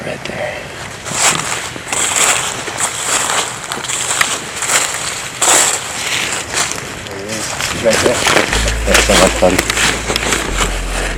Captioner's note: sound of walking